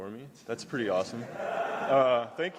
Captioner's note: laughter